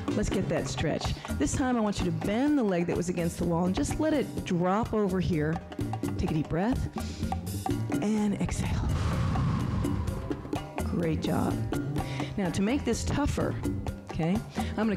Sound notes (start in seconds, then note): 6.9 breath hisses